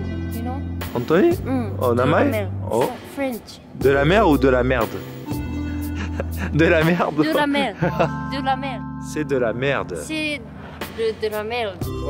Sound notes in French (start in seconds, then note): 5.7 rire